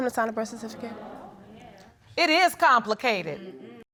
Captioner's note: audience exclaims